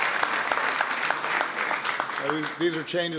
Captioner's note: applause